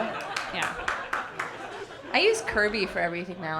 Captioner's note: audience clapping and laughing